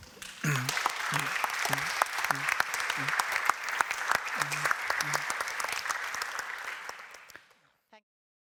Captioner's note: audience applauds